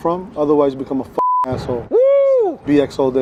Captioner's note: blips; cheering